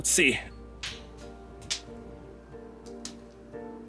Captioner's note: rock hitting surfaces on way down